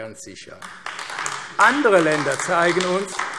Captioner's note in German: Beifall AfD